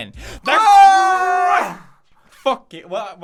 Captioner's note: gasp